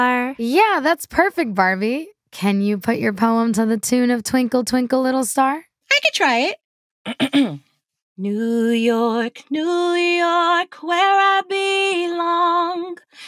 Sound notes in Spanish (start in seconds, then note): 0.0 cantando; 7.0 carraspea; 8.3 cantando